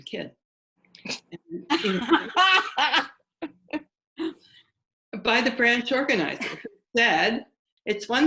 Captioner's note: laughter